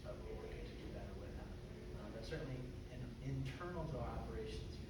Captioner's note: none